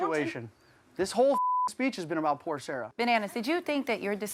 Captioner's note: beep